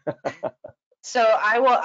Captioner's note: hearty laughing